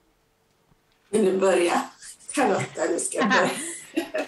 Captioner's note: skratt